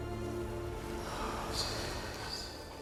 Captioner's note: whisper